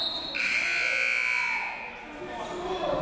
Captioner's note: whistle; buzzer